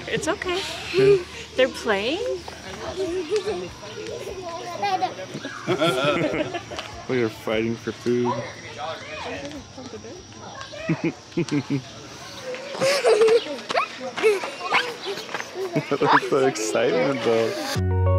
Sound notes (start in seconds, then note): 4.7 laughing; 12.6 laughs